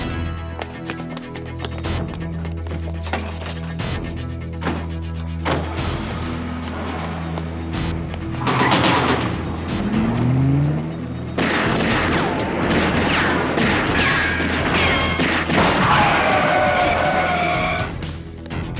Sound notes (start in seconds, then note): 0.1 dramatic music; 8.6 tires squeal; 11.4 gun fires; 16.0 tires squeal; 18.6 dramatic music